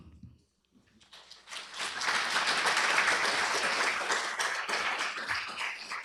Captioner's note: applause